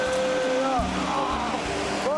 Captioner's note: chanting